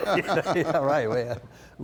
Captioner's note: laughter